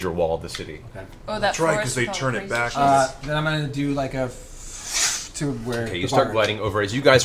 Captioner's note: whoosh